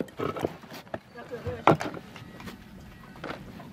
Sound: conversations, distant ringing of bells

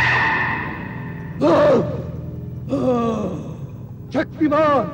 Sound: grunts

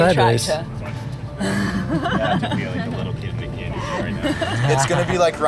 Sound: laughter

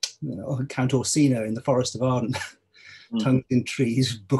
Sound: laughs

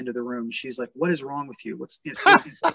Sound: laughs

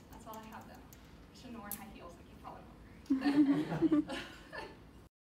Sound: audience laughs

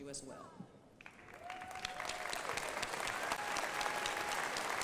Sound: crowd applauding

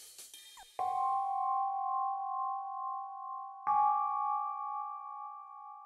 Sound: sound effects

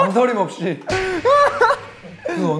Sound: boom!

